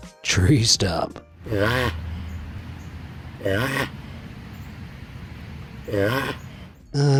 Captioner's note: tortoise squawks